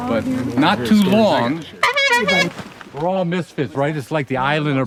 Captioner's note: honks clown horn